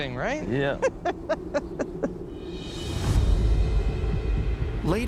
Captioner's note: laughs